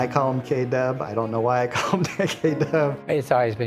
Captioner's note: laughing